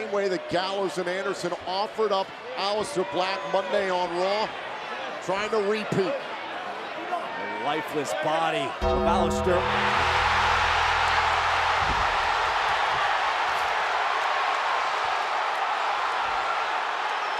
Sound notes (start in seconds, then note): 8.8 ominous music; 8.8 audience cheers